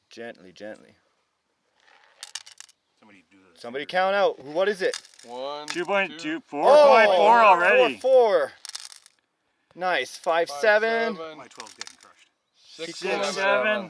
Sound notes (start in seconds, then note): 5.7 all counting